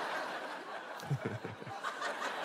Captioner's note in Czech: smích moderátora